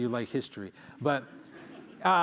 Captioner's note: laughter